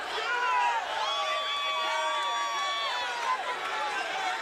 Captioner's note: crowd cheering